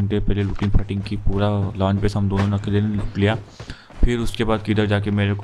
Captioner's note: sniffs